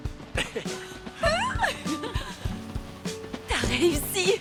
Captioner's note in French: rires